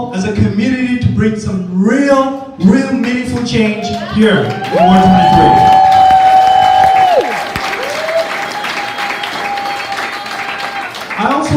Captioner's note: applause wooooooo